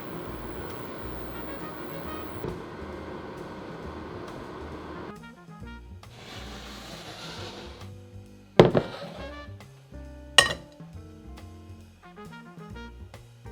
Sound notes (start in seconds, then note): 6.2 pot sliding